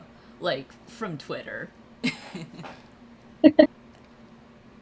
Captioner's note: laughs